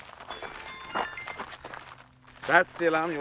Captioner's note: chimes